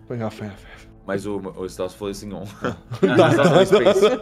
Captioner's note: laughter; laughs